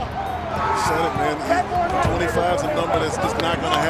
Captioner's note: people chatting indistinctly